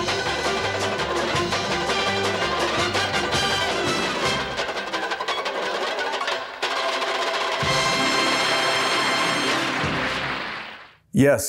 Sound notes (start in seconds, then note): 8.3 applause